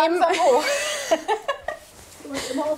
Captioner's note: they laugh